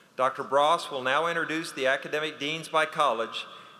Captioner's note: none